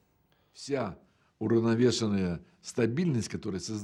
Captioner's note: speaking Russian